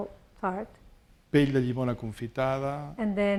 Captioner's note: speaking spanish